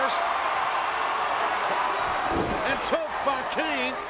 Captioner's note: audience cheers